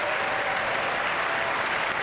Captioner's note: applause